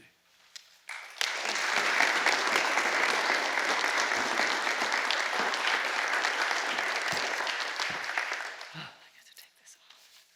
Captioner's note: applause